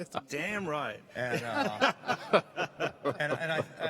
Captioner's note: laughing